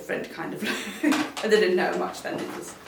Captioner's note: laughs